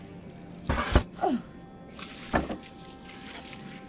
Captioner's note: Claire grunts; door thuds; suspenseful music